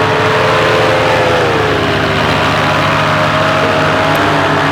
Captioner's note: motor roaring past